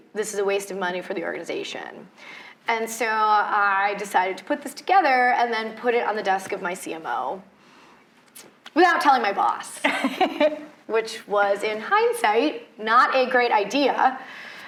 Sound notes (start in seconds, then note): 9.8 laughs